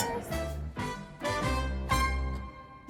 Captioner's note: fast beat; swoop